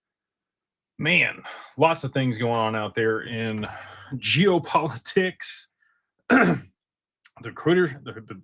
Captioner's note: clears throat